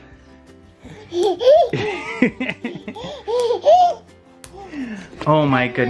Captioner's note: giggles and claps